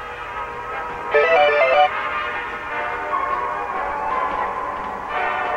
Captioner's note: faint upbeat jazz music; electronic chirping